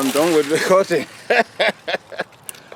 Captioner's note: laughs